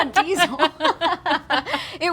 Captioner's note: laughter